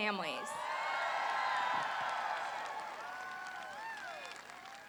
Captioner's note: applause